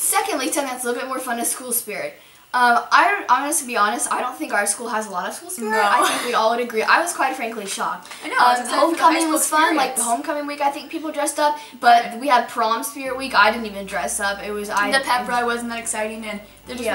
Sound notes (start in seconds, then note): 5.6 laughing